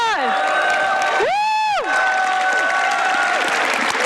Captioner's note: applause